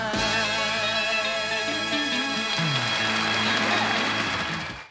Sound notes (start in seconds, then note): 1.6 audience claps